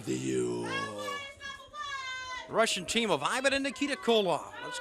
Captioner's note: crowd chatter